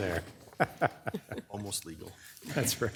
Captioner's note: laughing